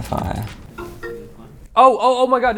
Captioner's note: alert chiming